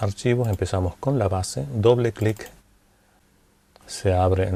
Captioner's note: double click